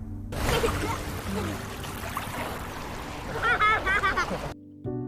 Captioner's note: Water splashing and Hannah laughing